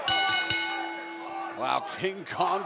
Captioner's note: bell ringing